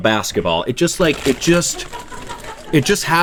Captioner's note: laughing